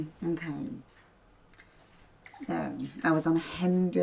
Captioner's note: none